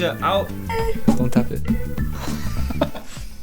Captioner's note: taps